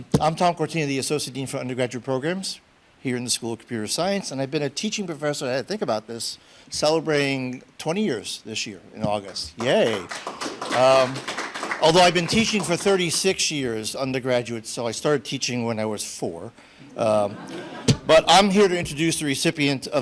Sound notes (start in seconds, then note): 9.5 audience applauding; 17.0 audience laughs